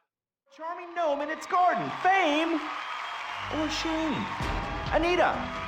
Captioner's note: television sound